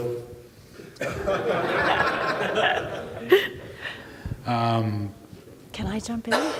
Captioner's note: all laughing